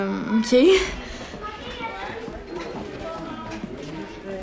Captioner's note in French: conversations au loin